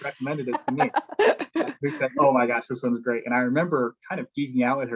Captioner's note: laugh